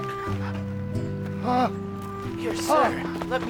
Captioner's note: gasping